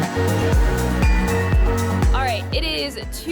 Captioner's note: chimes